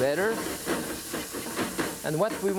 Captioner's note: pan clacking